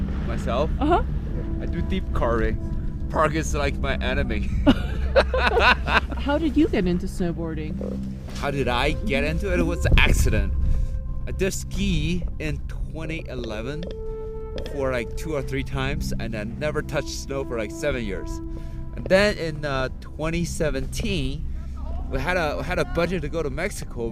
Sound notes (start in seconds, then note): 4.4 both laughing